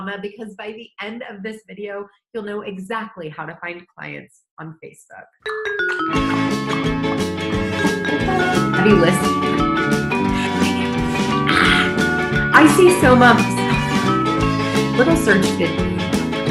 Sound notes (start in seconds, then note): 5.9 upbeat music; 10.2 hisses